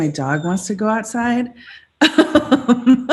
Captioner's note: laughs